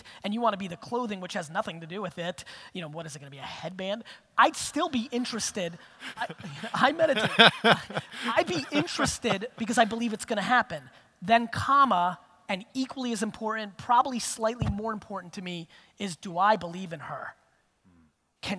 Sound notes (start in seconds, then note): 6.0 audience laughter